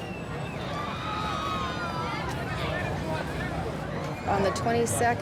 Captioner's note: background talking and shouting